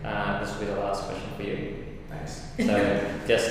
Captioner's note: laughs